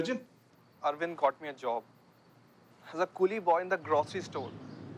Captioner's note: on phone